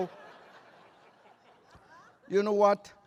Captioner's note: laughter